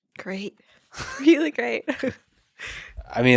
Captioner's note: laughs